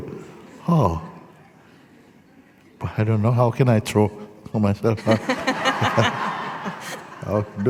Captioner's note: laughter